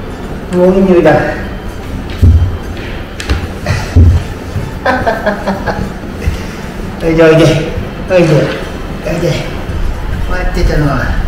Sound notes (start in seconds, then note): 3.6 laughs